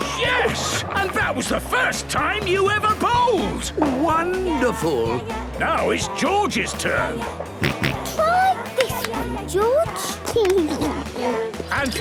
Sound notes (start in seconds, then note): 6.8 George snorts; 10.4 giggles